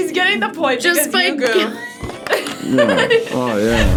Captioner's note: both laugh